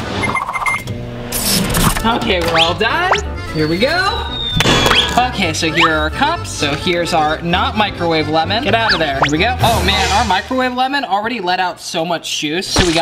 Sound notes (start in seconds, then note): 0.2 beeping; 1.4 zaps